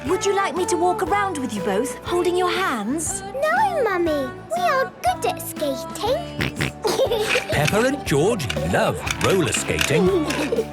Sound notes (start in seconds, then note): 6.3 snorting and giggling; 10.1 laughter